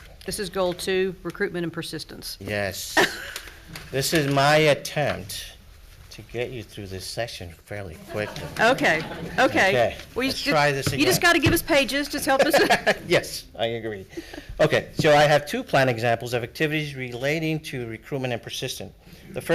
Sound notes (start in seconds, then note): 8.0 audience laughs